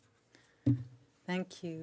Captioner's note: speaking French